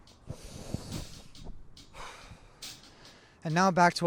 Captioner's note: percussive music; breathes deeply